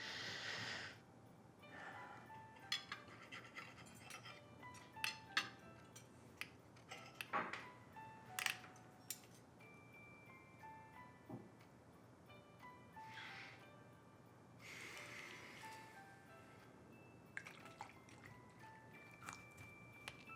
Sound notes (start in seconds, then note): 2.7 gentle Christmas music; 2.9 knife scraping; 7.6 gentle Christmas music; 14.2 Oliver exhaling; 16.8 gentle Christmas music